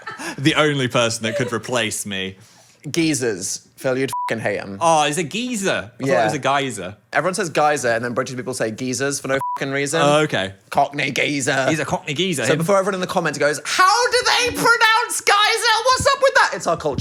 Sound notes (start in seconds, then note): 4.1 beep; 9.4 beep